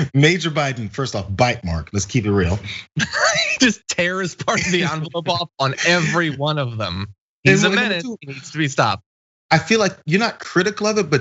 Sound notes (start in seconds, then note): 2.6 laugh